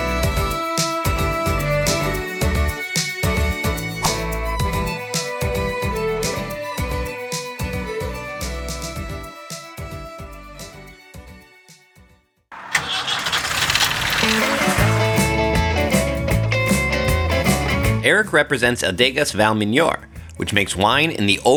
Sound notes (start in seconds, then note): 0.2 folk music plays; 12.5 car engine starts; 14.0 upbeat music begins